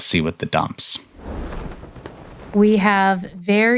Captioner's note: screen whooshes